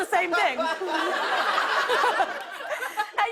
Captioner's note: laughter